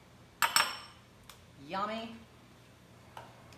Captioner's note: spoon tapping